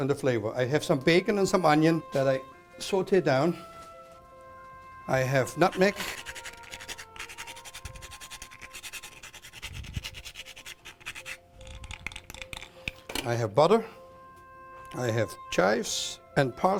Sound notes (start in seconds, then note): 5.7 grating